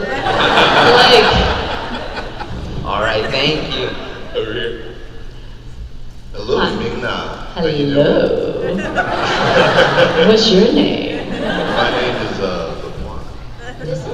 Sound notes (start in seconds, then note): 0.0 crowd laugh; 8.0 sexy voice